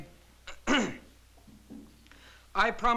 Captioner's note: cough